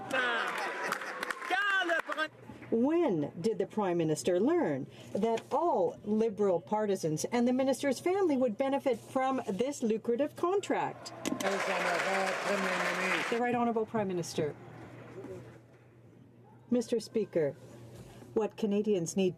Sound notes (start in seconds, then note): 14.4 some Applause